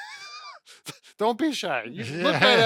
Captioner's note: laughs